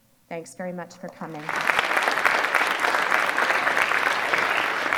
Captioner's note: audience applause